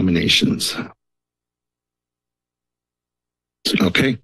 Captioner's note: silence